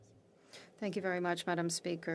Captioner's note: speaking FRENCH